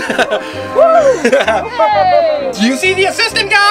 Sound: cheering; laughs

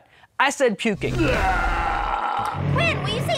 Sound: gagging

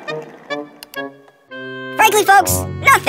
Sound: click

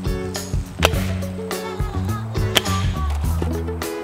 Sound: thwack; thwack

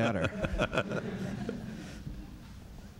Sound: laughter; laughs

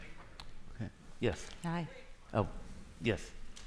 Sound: background chatter

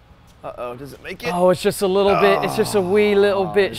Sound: groans

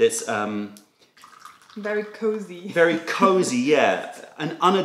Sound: laughter

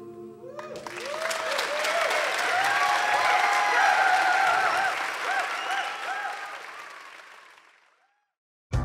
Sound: applause and shouts from the audience

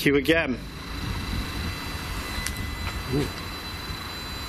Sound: machine buzzing

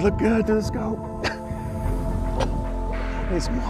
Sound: cough

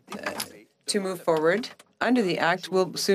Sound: speaking French

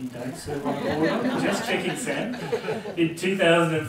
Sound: laugh

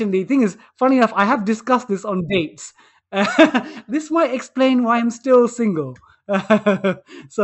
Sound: laughter

